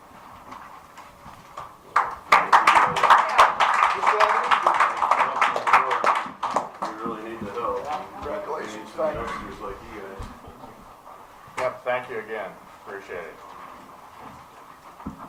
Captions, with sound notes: *applause* We really need the help.